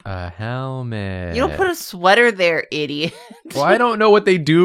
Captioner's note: laughs